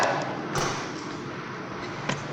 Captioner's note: WWII aircraft sounds; gunshot